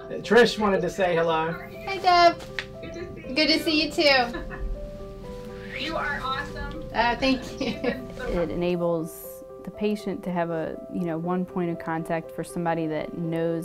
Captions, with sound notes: >> Trish wanted to say hello. >> Hi Deb. >> Good to see you. >> Good to see you too. >> [LAUGH] You are awesome. >> Thank you. >> It enables the patient to have one point of contact for somebody that knows